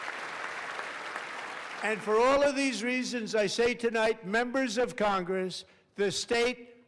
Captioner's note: applause